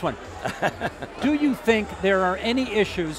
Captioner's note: laughing